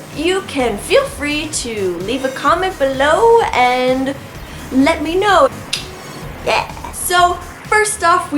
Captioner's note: clicks mouth